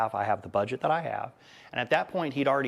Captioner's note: none